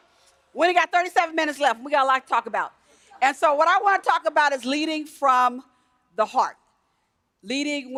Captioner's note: laughter